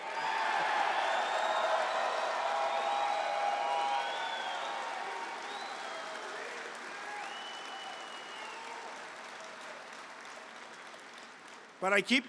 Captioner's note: applause